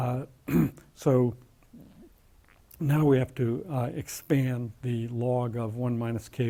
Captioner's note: cough